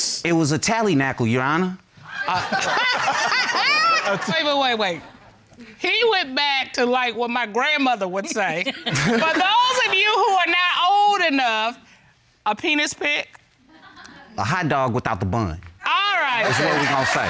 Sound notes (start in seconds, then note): 2.0 judges laughing